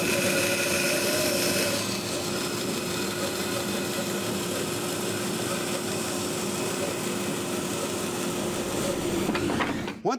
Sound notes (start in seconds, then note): 0.0 saw blade continues whirring; 1.9 saw blade continues whirring; 9.0 wood knocking together